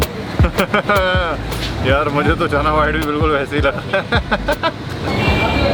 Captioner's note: laughs in doubt